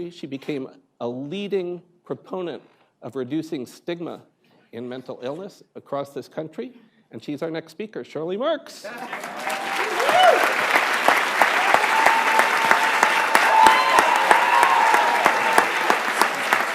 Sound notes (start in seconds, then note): 9.4 applause